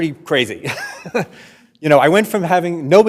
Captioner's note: laughs